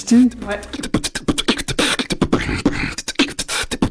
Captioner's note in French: beatbox